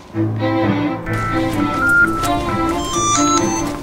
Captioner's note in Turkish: Telefon çalıyor